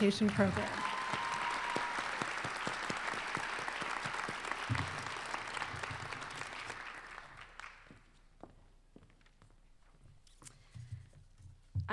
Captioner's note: applause